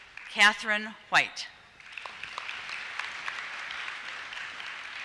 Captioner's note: applause